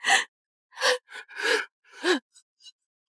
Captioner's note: gasp!